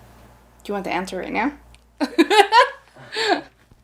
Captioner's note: laughing